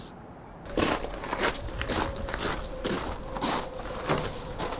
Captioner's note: footsteps crunching